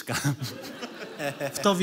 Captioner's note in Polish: śmiech